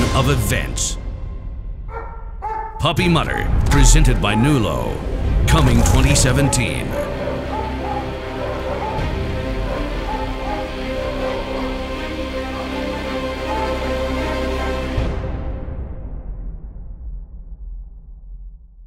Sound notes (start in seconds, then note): 1.9 dog barking; 7.0 dramatic music playing